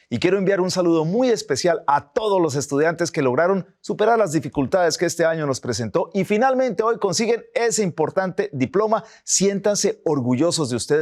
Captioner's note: speaking spanish